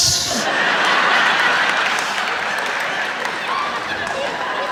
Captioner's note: raucous laughter; cheers and applause